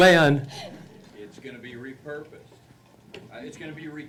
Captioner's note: voiceover